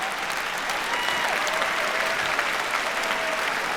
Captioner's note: cheering